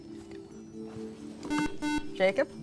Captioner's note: buzzer